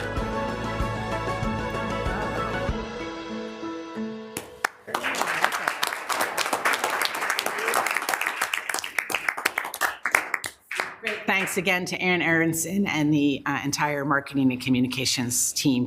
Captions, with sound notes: (bright music continues) (group applauds) - Great, thanks again to Ann Aronson and the entire Marketing & Communications team